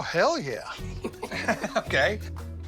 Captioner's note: Rick laughs